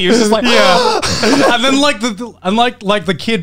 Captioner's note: gasps